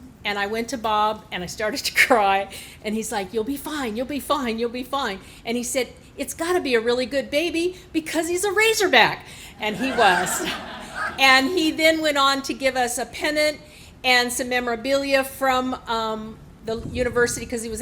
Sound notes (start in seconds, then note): 9.6 laughing